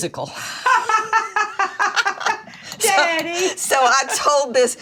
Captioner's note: both laughing